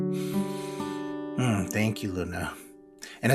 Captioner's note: takes a deep breath